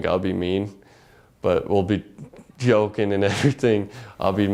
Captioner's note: laugh